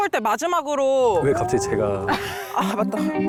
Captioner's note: confused sound